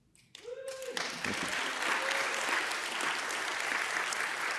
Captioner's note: audience applauding